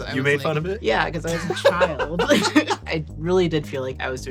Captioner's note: laughs